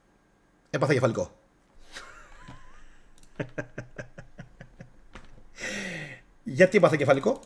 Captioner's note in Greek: γέλια